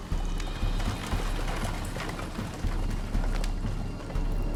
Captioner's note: galloping continues